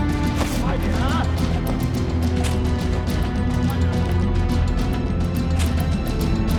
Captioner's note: henchman speaking in foreign language